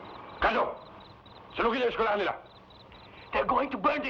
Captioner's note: Magno speaking in Tagalog